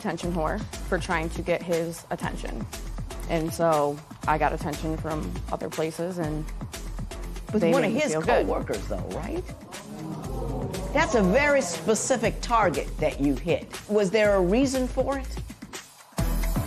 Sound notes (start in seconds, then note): 9.5 spectators murmur